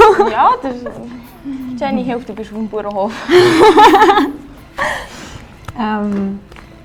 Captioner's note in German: lachen